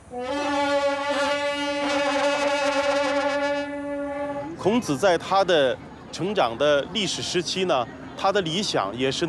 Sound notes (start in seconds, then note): 0.0 ruidos de trompetas; 5.0 hablan un idioma extranjero